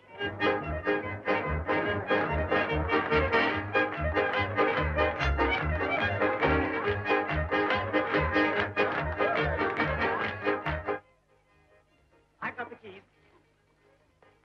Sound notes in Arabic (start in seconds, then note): 0.2 موسيقى مبهجة; 2.7 الزبائن يصفقون